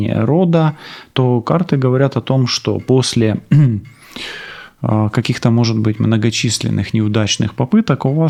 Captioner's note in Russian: откашливается